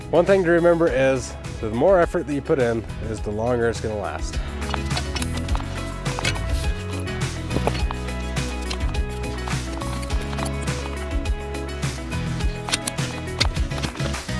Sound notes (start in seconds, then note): 4.3 rod clunking; 6.3 upbeat music; 9.3 shovel scraping; 9.3 upbeat music